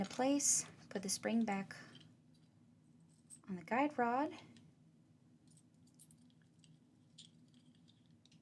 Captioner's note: pause